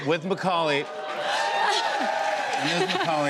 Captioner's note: cheers and applause